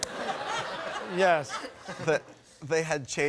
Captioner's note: laughter